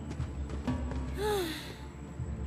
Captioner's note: Bridgette Sighs